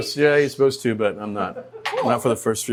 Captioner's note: person laughing